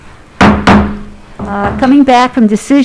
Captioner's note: gavel bangs